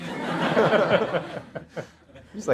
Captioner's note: audience laughter